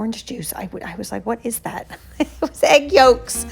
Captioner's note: laughing